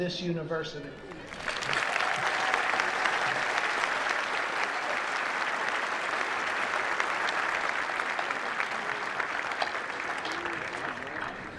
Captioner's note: applause